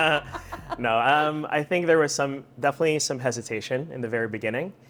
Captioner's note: laughs